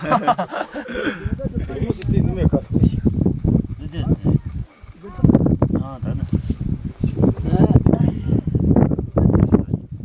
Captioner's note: laughter, wind sounds